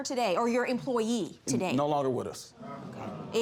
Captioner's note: audience groan